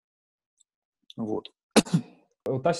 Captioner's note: coughing